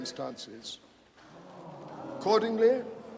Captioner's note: audience groaning